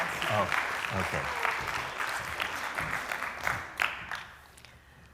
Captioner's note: applause